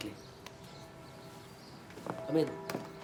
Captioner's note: bells ringing in distance